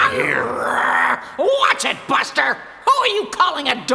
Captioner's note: snarls